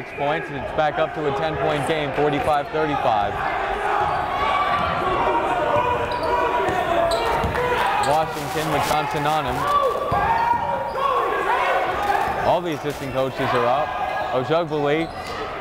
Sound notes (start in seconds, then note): 0.4 cheering; 4.6 yelling